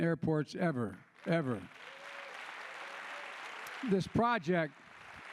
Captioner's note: applause